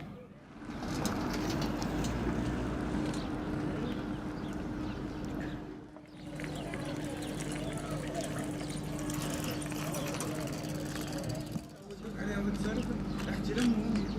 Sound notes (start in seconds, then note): 0.0 children's voices; 0.3 traffic; 6.2 whirring; 11.7 non-english speech